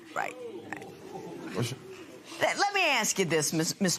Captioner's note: spectators murmur